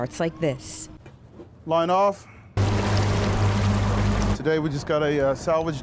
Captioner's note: boat engine